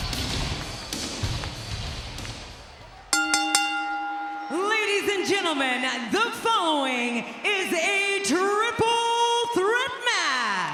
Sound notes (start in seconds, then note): 3.1 bell ringing